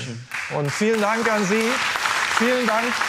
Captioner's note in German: Applaus